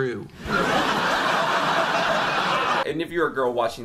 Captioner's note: laughter